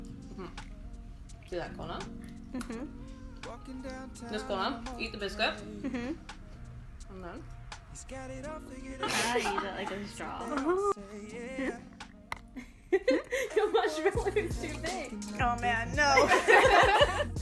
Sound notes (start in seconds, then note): 0.0 upbeat music; 16.1 laughs